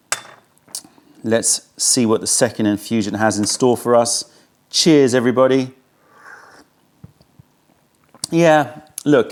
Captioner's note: sips tea